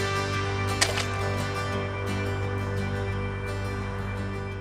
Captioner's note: water splashes